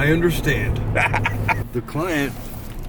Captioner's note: laughing